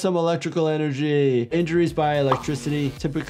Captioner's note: graphics fuzzing